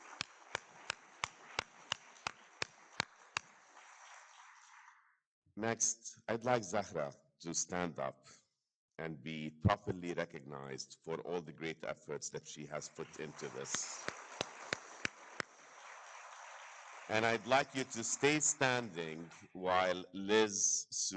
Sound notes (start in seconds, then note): 0.0 all clapping; 14.4 all clapping